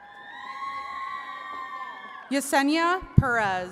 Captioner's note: attendees cheering